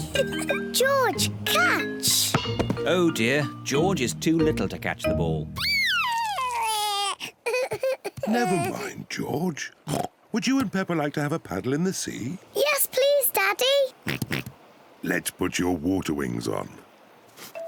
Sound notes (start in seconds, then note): 5.6 crying; 13.8 oinks